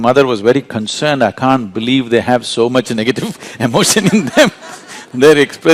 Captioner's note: laughter